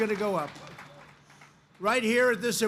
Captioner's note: applause